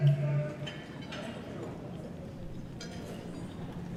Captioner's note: people murmuring